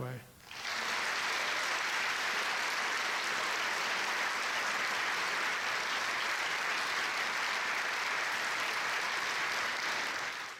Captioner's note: audience applause